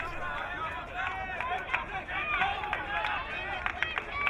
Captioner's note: crowd cheering